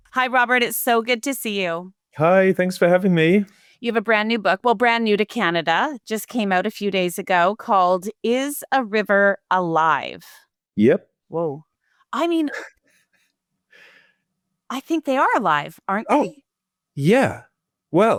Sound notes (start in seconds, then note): 13.1 laughing